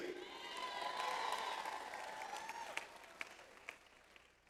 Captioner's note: audience applauds